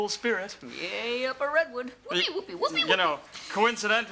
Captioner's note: cheers sarcastically